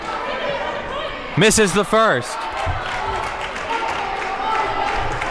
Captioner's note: audience clapping